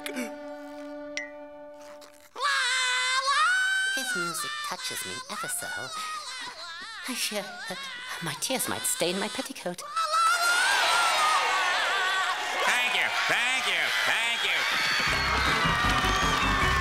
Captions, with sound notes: La la... This music touches me ever-so. I fear that my tears might stain my petticoat. La la la la. [cheering] Thank you. Thank you. Thank you. [screaming]